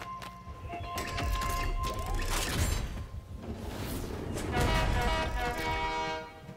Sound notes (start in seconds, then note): 0.0 whistle Blowing; 0.2 train Horn Playing "Mexican Hat Dance"